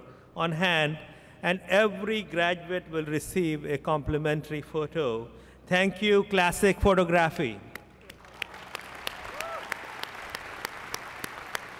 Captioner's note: applause